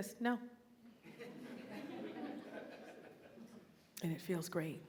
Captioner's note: audience laughing